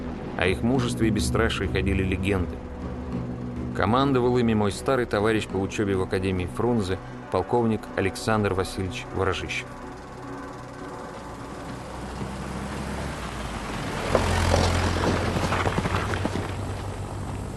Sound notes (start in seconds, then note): 11.9 sound of a passing vehicle; 13.9 sound of hooves; 16.6 sound of engine shutting off